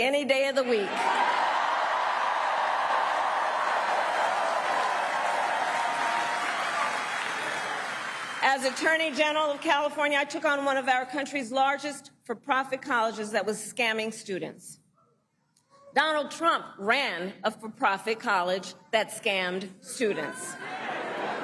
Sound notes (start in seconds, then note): 8.8 cheering and applause